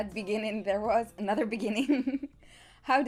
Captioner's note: laugh